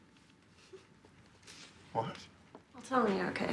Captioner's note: chuckles